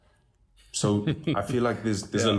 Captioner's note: laugh